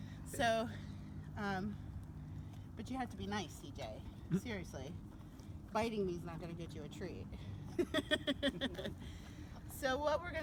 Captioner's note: laughs